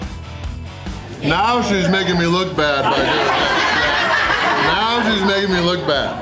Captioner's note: crowd laughter